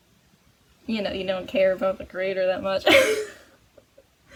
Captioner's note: laughs